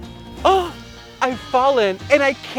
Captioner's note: gasps